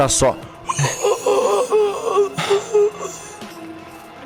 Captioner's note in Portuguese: grunhidos